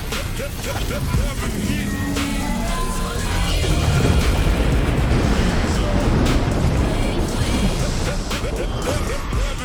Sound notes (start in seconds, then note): 4.2 thunderous blast; 7.7 gospel rap music